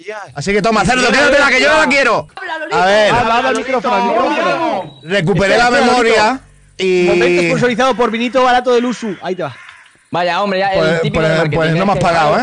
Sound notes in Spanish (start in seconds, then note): 3.6 barullo